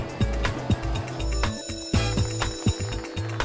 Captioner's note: upbeat music; school bell ringing; upbeat music